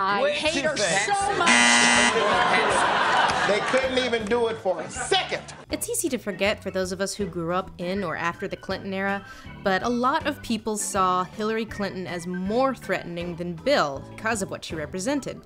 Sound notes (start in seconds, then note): 1.4 buzzer